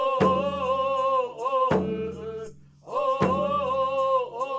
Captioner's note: chanting continues